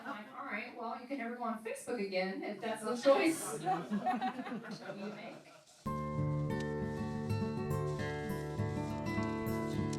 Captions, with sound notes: I was like all right, well I can never go on Facebook again, if that's a choice. (laughing) What do you think. (soft music)